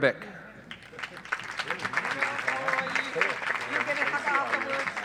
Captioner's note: audience applauds